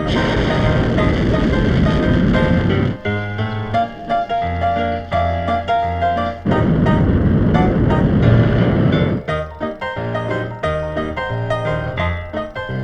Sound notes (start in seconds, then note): 0.0 rocket whooshing; 3.1 upbeat music; 6.3 rocket whooshing; 9.4 upbeat music